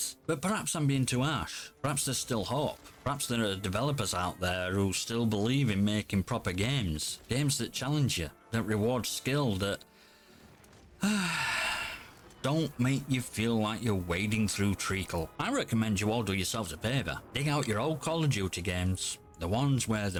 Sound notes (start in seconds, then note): 11.0 sighs